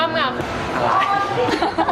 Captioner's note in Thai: คิกคิก